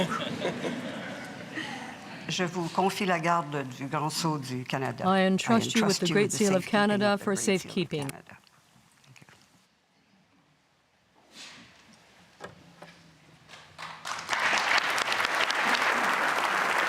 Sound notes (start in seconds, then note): 8.5 speaking French